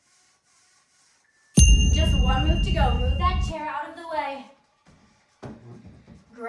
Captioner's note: ding